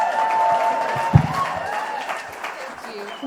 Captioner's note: applause